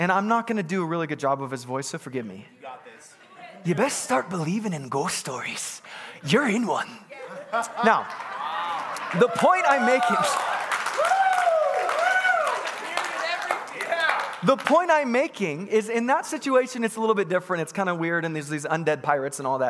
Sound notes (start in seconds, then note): 7.3 congregants laughing; 10.5 congregants cheering